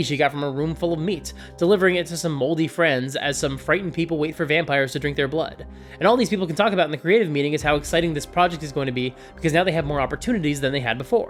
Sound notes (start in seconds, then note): none